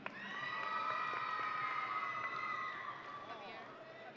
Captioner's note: audience cheering